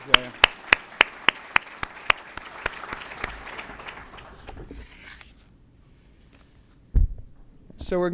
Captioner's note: applause